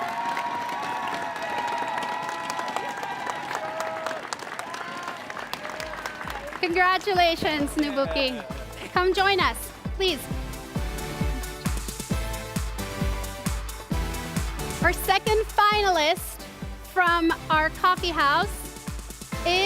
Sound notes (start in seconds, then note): 5.1 cheers and applause